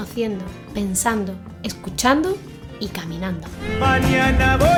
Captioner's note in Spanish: Voz en off